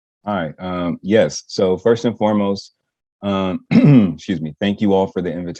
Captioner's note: coughs